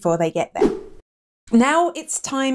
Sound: air whooshing

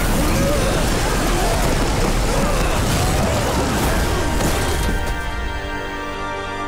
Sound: grunting

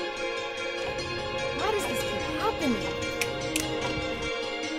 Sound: snapping; bright dramatic music

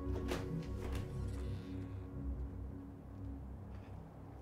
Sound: metal squeaking

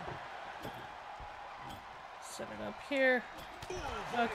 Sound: applause

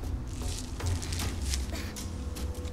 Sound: sound of peeling bark

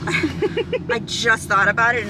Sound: laughter

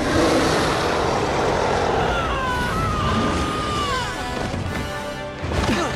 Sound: scream

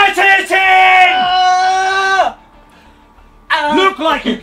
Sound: Ethan shouting

